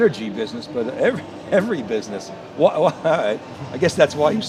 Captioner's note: laughs